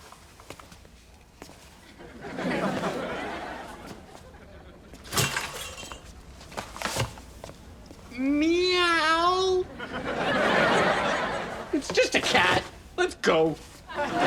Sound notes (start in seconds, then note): 5.0 metal clanking; 7.9 mimics cat; 9.7 audience laughs; 13.8 audience laughs